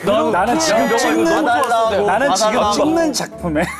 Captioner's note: outcry